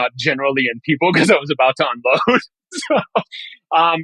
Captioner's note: laughing